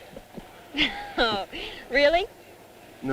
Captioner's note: laughing